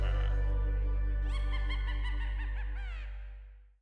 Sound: evil laugh; another evil laugh

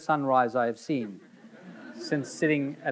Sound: audience laughing

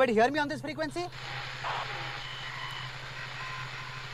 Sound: radio static

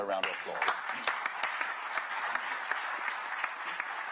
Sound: applause

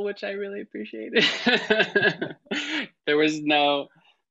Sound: laughs

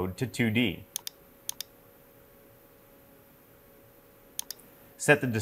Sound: mouse clicking

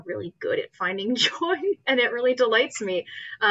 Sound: laughs

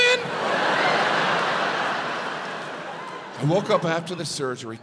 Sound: audience laughs

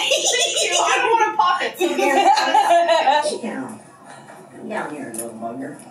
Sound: laughs

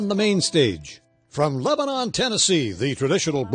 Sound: voiceover

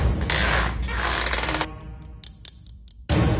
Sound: creak

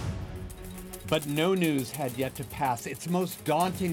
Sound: suspenseful chord strikes; coins clinking

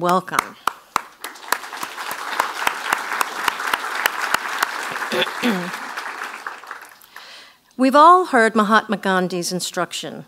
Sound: applause

